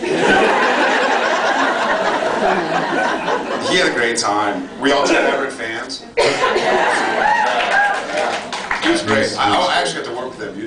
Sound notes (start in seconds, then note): 0.0 laughs; 7.0 cheers, applause